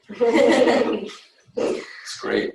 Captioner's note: people chuckling